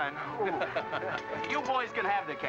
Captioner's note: George chuckles